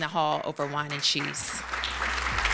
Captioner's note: applause